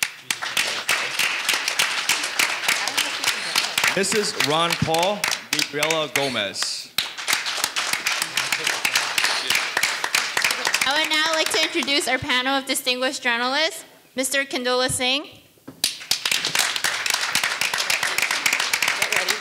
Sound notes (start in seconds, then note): 0.0 audience applauding; 15.8 audience applauding